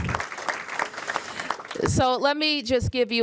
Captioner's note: applause